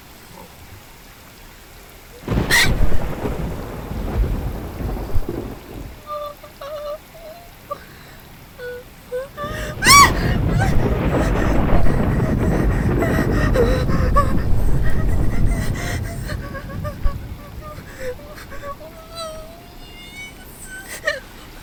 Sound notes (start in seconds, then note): 2.2 shrieks; 10.1 yelps